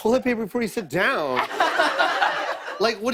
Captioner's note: laughter